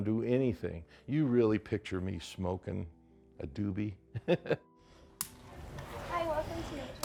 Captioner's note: laughter